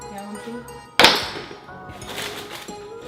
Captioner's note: bowl loudly popping; packets rustling